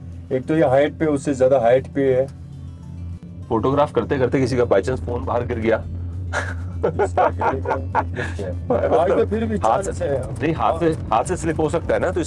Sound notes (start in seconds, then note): 6.3 laughter!